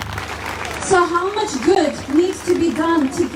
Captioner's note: crowd claps